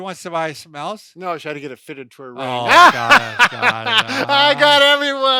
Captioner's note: laughing